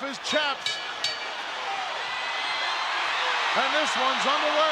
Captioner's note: bell rings